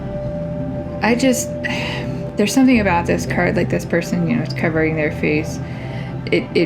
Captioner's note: sigh